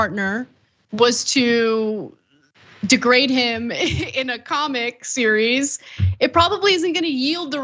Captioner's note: laugh